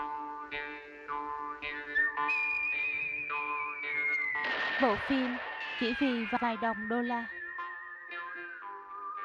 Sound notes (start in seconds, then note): 1.6 whistling movie theme; 4.4 gunshot